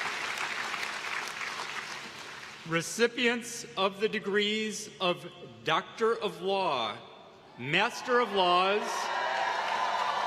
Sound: applause

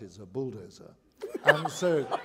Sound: laughter

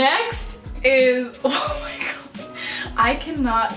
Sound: wheezing

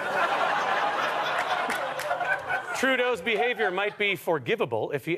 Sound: audience laughter

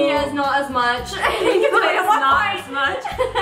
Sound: laughing

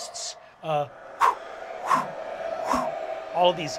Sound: whooshing

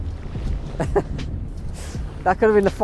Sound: laughs

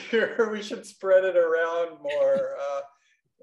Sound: laughs

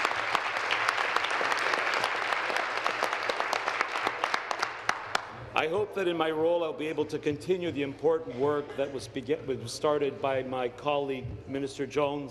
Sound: applause

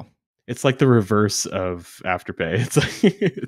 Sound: chuckles

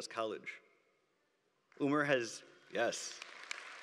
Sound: applause

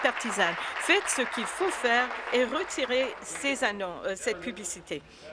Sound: applause

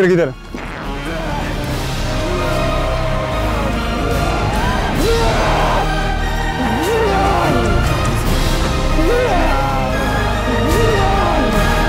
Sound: atmospheric music; screaming

